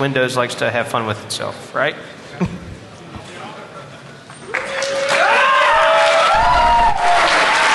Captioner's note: applause